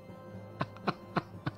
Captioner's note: laughs